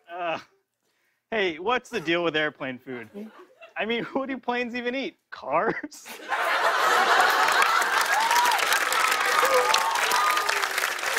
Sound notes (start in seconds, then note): 4.8 chuckling; 5.6 laughter; 6.4 cheers and applause